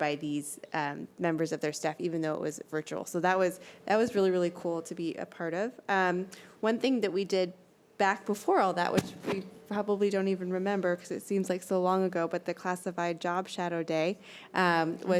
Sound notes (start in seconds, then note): none